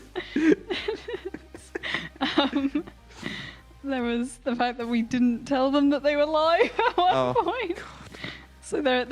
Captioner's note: laughter